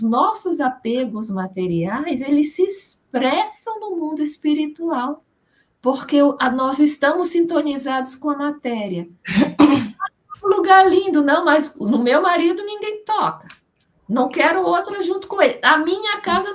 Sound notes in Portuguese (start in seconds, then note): 9.2 limpando a garganta